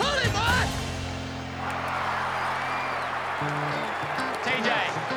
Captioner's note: crowd cheers